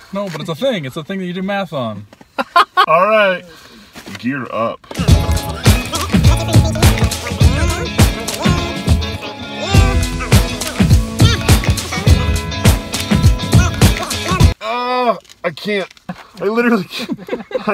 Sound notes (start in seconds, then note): 2.4 laughs; 5.1 fast upbeat music